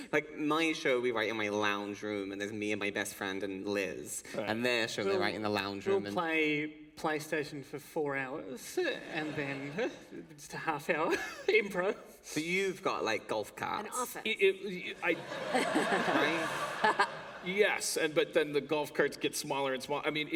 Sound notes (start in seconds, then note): 14.9 laughter